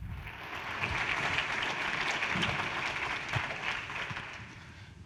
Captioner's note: audience applauding